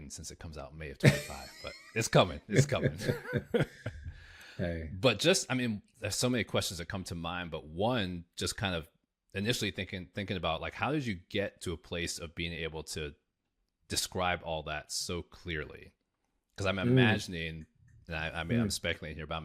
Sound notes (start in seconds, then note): 2.5 laughing; 2.5 laughs